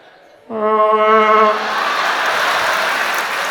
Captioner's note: sound of a vuvuzela